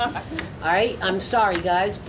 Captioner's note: laughing